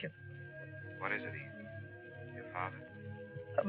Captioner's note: on phone